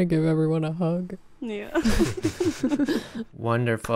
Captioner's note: group laughing